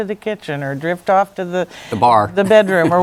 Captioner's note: laughs